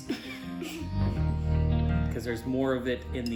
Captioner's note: giggles